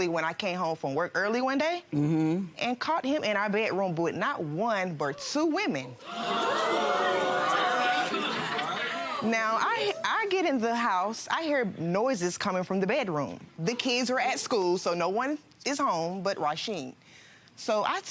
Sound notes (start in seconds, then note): 6.0 audience oohing